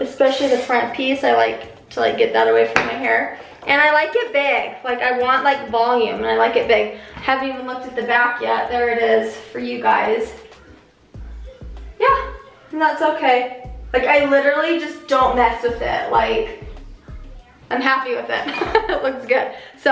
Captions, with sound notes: Especially the front piece. I like to get that away from my hair. And I like it big. I want volume and I like it big. I haven't even looked at the back yet. There it is for you guys. Yeah, that's okay. I literally just don't mess with it. I'm happy with it. (laughs) It looks good.